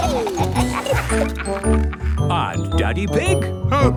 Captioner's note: giggling; laughing